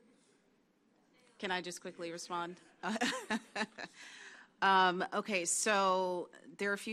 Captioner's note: laughs